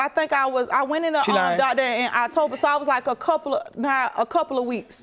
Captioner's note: stuttering